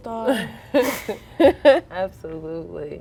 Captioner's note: girls laughing